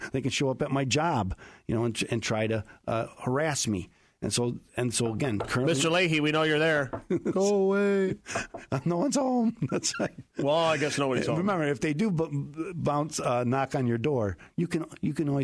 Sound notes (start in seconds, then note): 6.8 knock knock